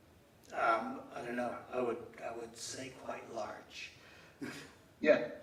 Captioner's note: laughs